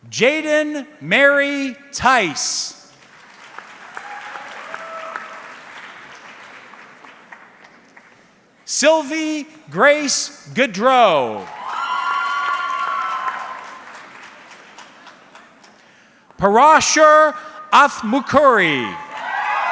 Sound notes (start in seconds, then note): 2.9 audience clapping; 11.4 audience cheering